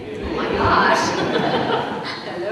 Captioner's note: laughter